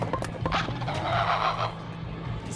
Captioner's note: LiMu squawks